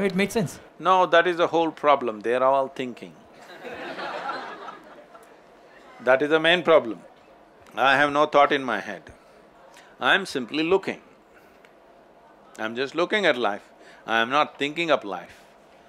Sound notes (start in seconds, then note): 3.4 few laugh